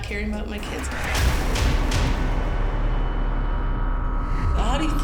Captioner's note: loud slams